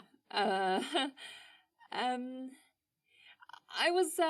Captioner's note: laughs